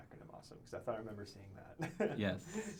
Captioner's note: laughs